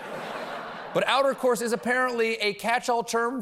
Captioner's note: laughter